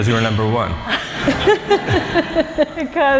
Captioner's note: laughter